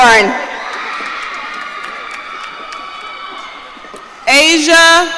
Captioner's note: audience cheering